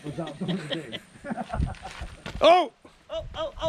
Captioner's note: laughing